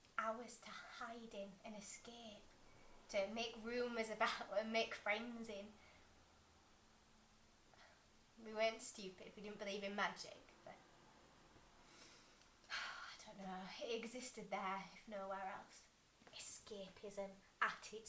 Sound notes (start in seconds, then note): 11.8 exhale; 11.8 inhale